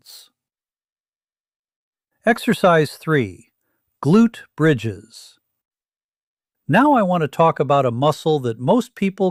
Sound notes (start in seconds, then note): 0.8 pause